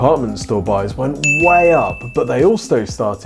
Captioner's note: bell chimes